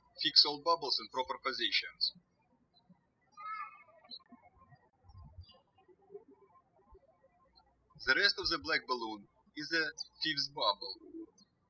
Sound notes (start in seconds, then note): 0.0 birds chirping; 3.3 birds chirping